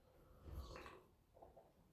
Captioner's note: slurp